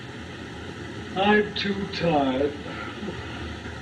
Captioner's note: yawning